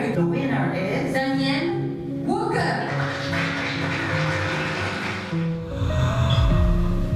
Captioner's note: applause